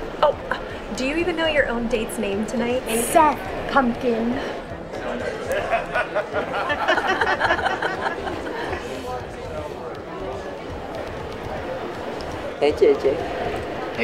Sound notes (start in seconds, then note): 5.4 laughing